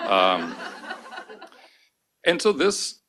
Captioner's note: laughter